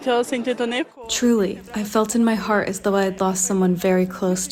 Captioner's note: through translator